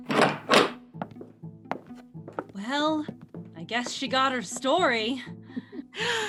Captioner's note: footsteps and door opening